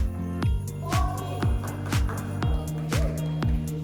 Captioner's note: clapping